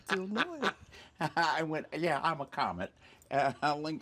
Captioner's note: laughing